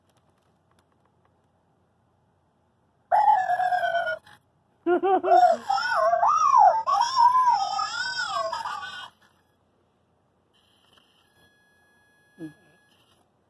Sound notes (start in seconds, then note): 4.5 unintelligible robot language